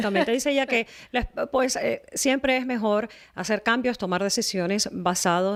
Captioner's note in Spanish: Hablando ingl\s